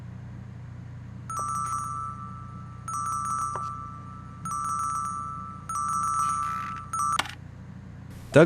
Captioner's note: phone ringing